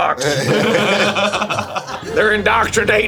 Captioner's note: streamers laughing